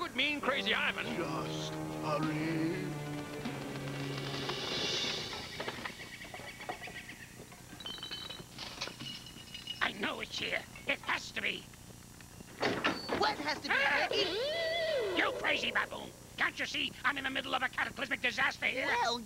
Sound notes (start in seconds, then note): 4.5 rummaging; 12.6 door opens